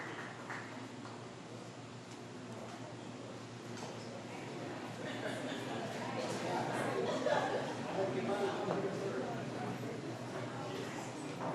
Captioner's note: applause